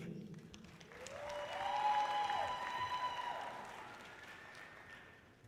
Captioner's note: audience cheering loudly